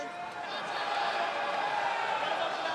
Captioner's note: crowd cheering